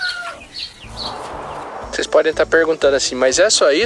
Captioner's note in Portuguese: Cacarejos